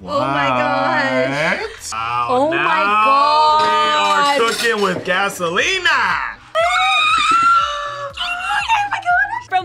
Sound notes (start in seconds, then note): 6.6 screaming; 7.1 gasping